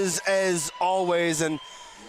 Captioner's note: cheers